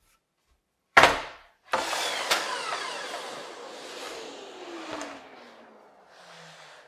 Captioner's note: wood clicking; machine whirring